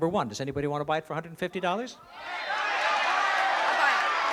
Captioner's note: shouting